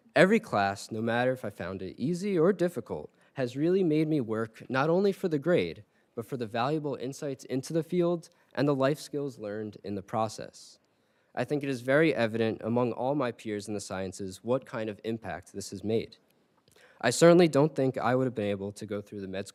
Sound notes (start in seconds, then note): none